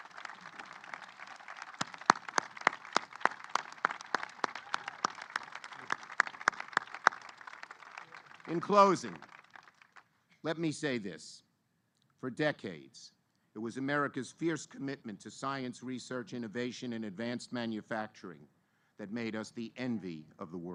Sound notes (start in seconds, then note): 6.1 applause